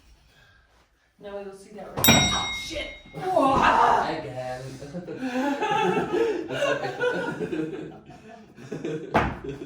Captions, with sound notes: Now we will see that, oh shit! (woman yells) (all laughing)